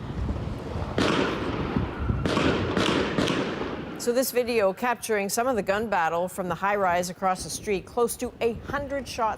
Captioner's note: gunshots